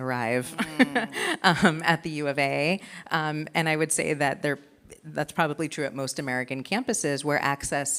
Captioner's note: laughs